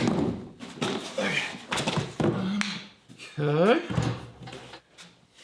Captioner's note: grunts